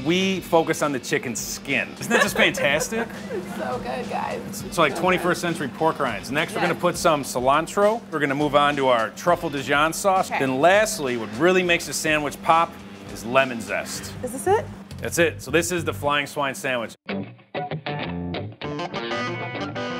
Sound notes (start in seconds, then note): 2.0 laughs; 17.0 upbeat guitar